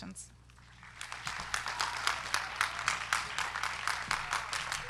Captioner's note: crowd clapping